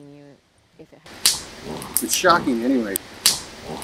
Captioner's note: animals snorting